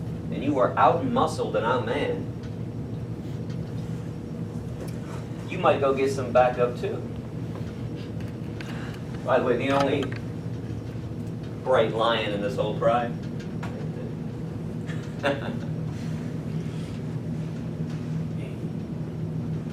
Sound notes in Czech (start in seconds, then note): 14.9 smích